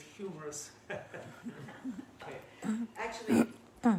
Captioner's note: laughing